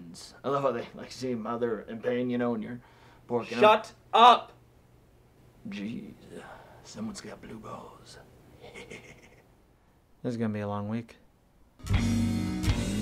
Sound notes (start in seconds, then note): 8.6 chuckling